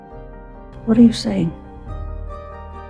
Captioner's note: voiceover